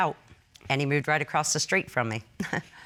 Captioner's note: chuckles